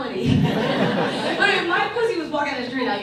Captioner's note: audience laughs